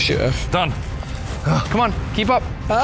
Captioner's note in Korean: 신음